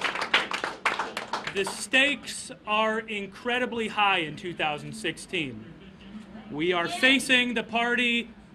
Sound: applause

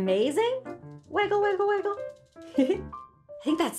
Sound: giggles

